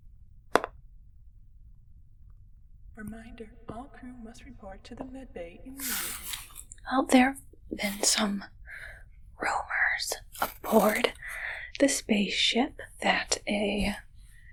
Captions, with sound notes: [voice over intercom] Reminder, all crew must report to the med bay immediately. Well, there have been some rumors aboard the spaceship that a